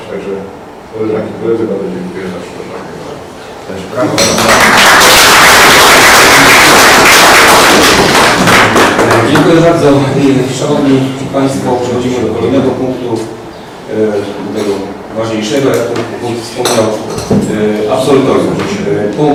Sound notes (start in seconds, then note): 4.2 oklaski